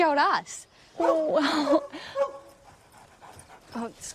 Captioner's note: barking